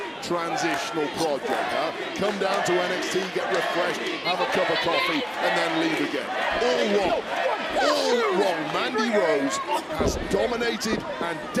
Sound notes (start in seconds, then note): 2.1 crowd chants, "mandy"